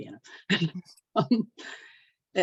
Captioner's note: chuckles